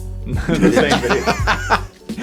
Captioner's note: group laughing